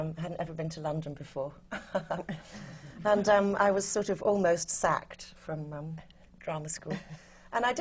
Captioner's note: laughs